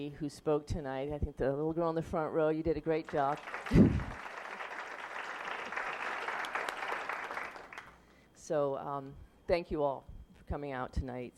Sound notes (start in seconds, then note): 7.6 applause